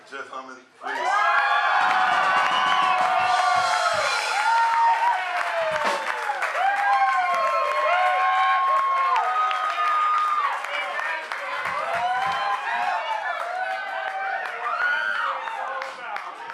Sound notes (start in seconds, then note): 2.2 crowd cheering